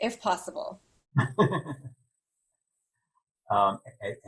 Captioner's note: laughing